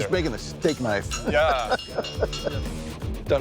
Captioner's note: laughing